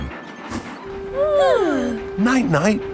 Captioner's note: both yawning